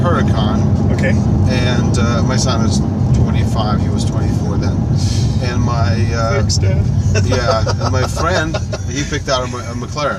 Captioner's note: laughs